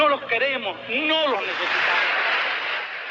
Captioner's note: crowd cheering